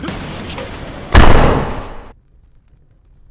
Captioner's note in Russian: bassboosted бдыщ